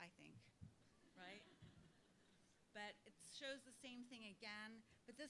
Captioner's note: laugh